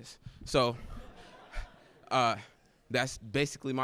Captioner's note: laughter